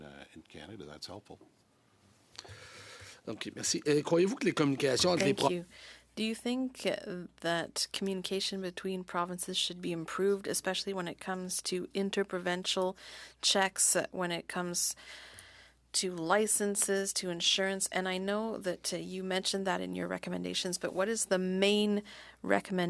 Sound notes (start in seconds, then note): 6.6 speaking French